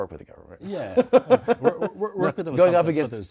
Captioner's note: laughter